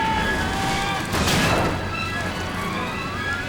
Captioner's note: Peter screams